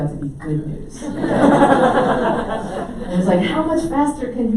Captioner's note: audience laughs